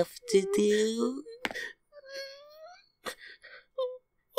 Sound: whimpering

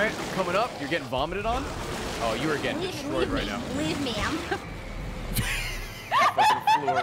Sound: laughs

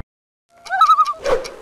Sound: loon call

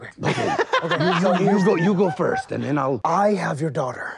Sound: laughter in the background

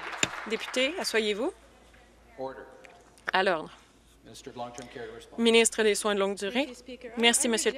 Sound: some Applause

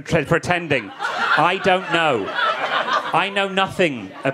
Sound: audience laughing

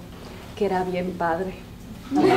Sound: spanish; laughter

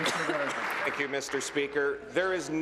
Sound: applause

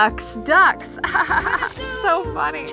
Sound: laughs

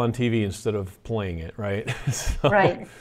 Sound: laughs

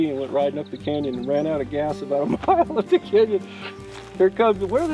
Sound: laughs

